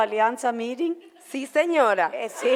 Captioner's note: in foreign language; foreign language